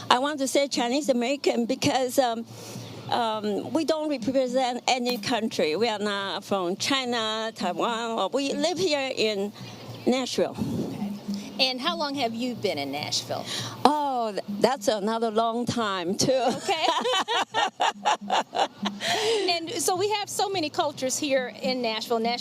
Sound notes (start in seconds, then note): 16.5 both laughing